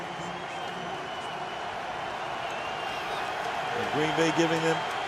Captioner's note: cheering